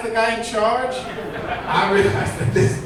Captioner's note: audience laughing